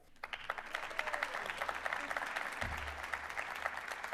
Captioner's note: applause